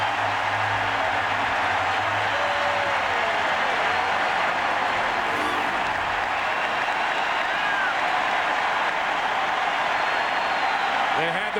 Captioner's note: cheers and applause